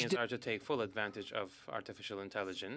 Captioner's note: speaking French